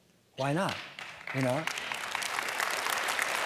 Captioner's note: applause